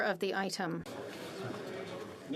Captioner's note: speaking French